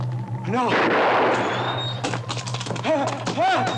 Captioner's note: gun fires; cart wheels creaking; Morgan exclaims